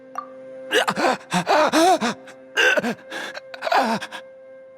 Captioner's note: pained breathing